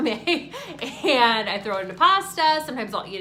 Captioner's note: laughing